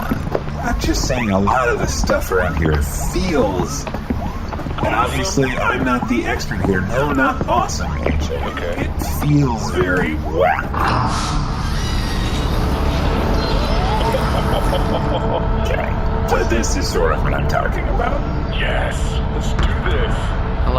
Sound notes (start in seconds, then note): 5.1 excited; 13.8 door creaks open; 16.6 laughing